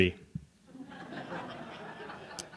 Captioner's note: laughter